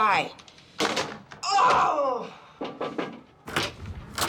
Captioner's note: screams; knocking